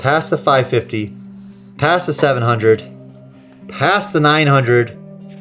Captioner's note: none